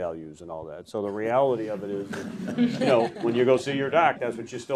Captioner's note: audience chuckles